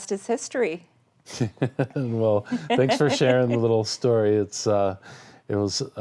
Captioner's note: laughing